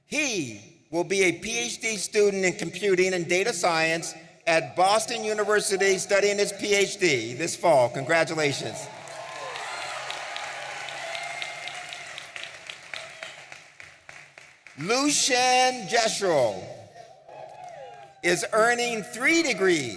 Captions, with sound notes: He will be a PhD student in computing and data science at Boston University studying his PhD this fall. Congratulations. (audience applauding and cheering) Lucian Jessel is earning three degrees